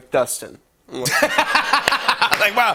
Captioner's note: laughter